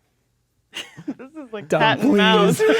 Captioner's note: laughing